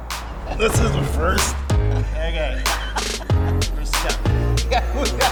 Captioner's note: laughs